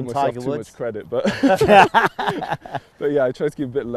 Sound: all laugh

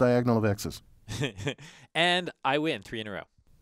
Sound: laugh

